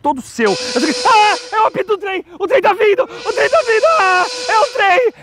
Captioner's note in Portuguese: apito de trem